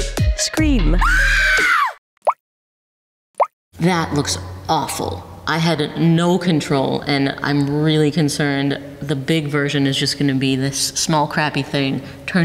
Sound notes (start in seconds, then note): 1.0 painting screaming; 2.1 paint dripping